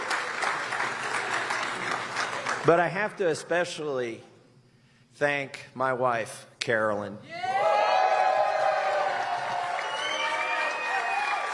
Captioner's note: applause